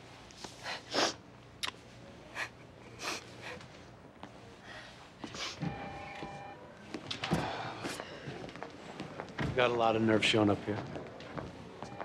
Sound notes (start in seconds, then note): 5.7 telephone rings; 7.3 sighs